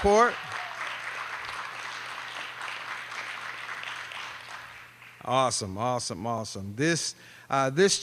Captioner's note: applause